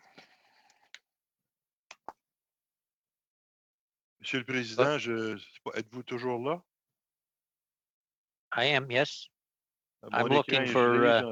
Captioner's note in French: voix de l'interprète